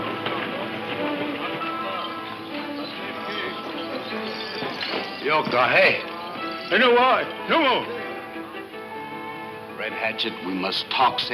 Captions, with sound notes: (speaks in foreign language) - Red Hatchet, we must talk same as white man.